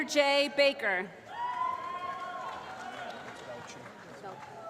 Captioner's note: applause